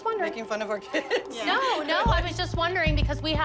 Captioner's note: laughs